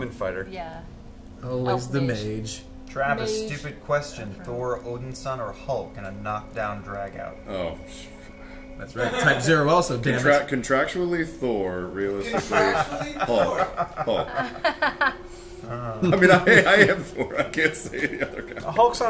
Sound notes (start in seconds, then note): 8.4 scoffs